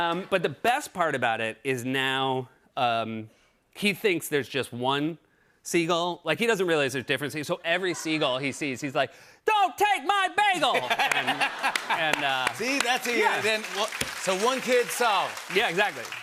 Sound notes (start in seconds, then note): 10.6 laughter